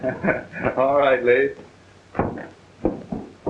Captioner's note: chuckling